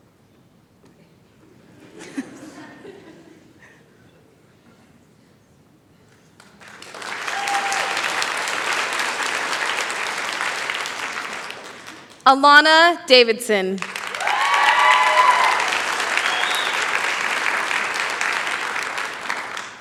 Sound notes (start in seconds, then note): 6.3 applause; 13.8 cheering